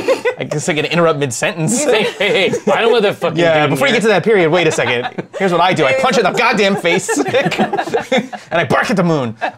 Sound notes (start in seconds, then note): 7.3 laughter